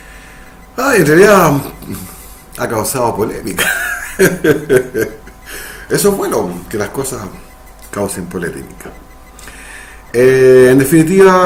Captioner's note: laughs